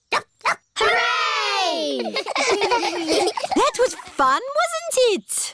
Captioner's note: barks; giggling